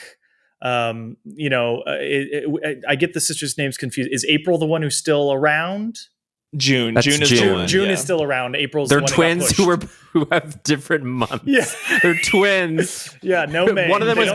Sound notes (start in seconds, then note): 11.0 laughs; 11.2 taran chuckles